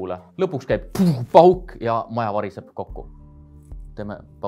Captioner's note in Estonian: pfuuh